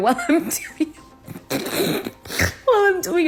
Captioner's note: laughs